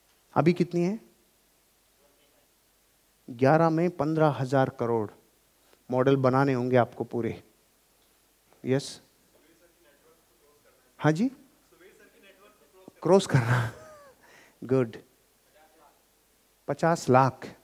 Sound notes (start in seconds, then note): 13.2 laughs